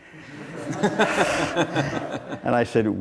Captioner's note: laughing